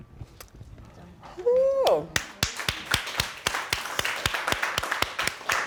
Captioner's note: applause